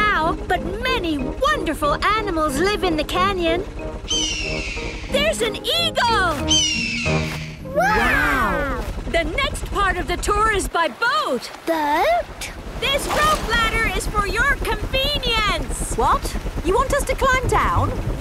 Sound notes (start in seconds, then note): 4.0 eagle shriek